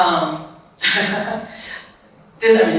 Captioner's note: speaker laughs